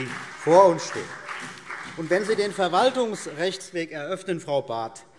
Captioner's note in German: Beifall CDU und BÜNDNIS 90/DIE GRÜNEN